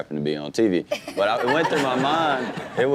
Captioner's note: Chanel and audience laugh